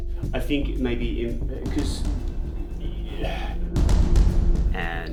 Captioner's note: sigh